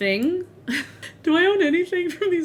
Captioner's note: laughs